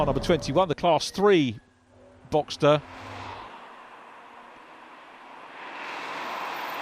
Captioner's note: cars whooshing